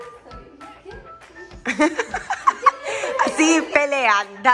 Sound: laughing

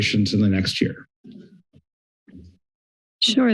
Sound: pause

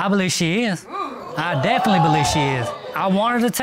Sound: audience hoots

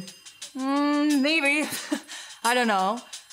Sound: chuckling

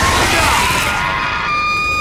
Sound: man screams

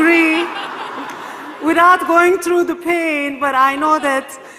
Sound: laugh

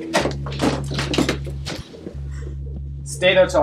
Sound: music intensifying; crash

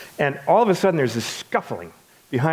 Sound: none

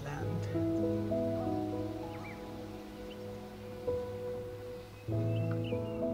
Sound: gentle music; birds chirping

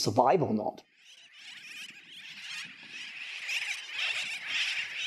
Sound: birds squeaking

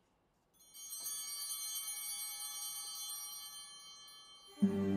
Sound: chimes ringing

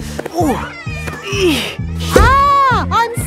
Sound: grunting

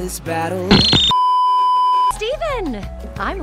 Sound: beeeeeep

